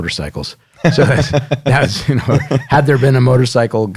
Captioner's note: laughs